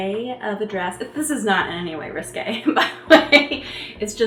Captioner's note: chuckling